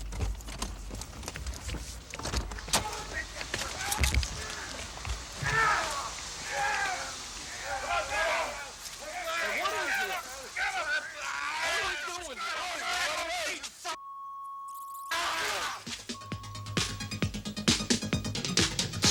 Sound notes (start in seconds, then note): 0.1 door thudding; 5.3 people groaning; 5.3 blows thudding; 12.9 people yelling; 13.9 beep; 13.9 people yelling; 16.1 upbeat electronic music; 16.1 beep